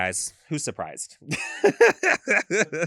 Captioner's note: laughs